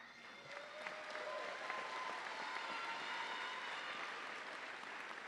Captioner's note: audience applauding